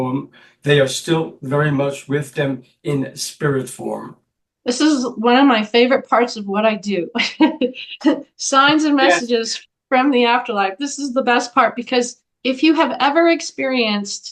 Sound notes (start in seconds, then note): 7.1 laugh